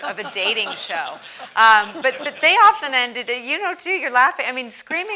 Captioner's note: laugh